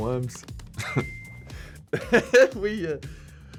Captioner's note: Harry laughing; laughing